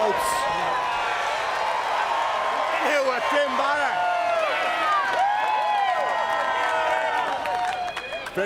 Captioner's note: applause